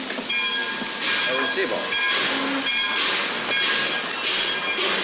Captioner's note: speaks Spanish